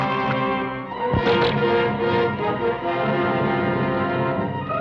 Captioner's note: bows twang